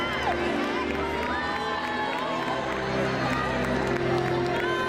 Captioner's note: crowd cheering